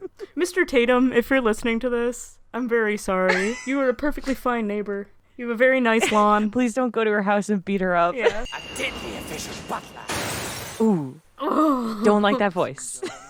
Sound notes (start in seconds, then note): 3.2 laughing; 10.8 both making sounds of disgust